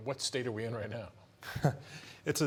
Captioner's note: chuckles